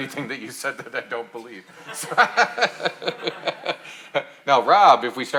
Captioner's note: laughing